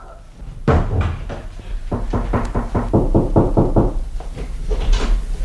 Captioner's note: knocks on the door